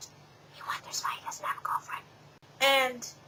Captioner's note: whispers